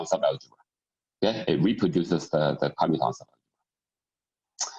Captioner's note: murmur